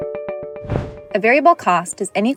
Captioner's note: upbeat music; graphic whooshes